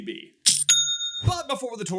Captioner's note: cha-ching!